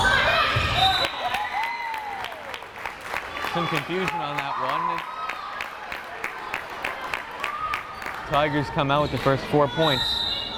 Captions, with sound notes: (whistle blares) (crowd cheering) Some confusion on that one. Tigers come out with the first four points.